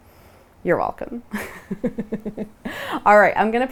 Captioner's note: chuckles